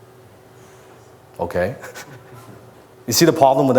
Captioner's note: laughs